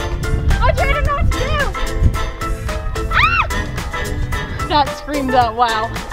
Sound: screams

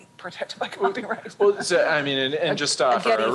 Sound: chuckling

